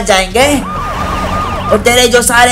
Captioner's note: police sirens